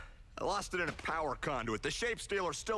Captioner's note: sighs